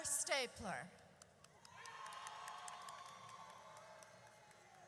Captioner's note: audience cheers